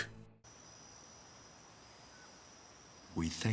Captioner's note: birds and Crickets chirping